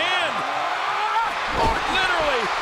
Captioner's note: Orton yelling